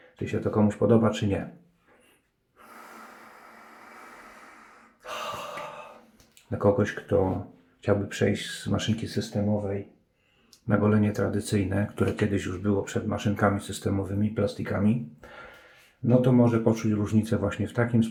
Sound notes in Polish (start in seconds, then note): 5.7 westchnienie